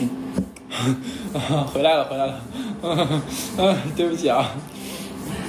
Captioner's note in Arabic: يضحك